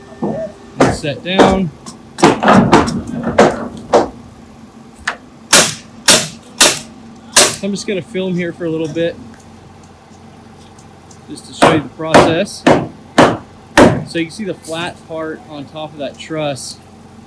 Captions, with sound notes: and set down. (wood thudding) (nail gun firing) I'm just gonna film here for a little bit just to show you the process. (wood thudding) So, you see the flat part on top of that truss.